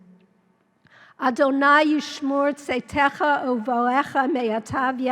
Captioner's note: speaking in Hebrew